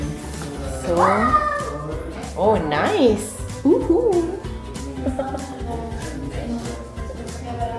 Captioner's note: laugh